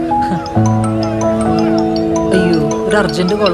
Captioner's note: phone ringing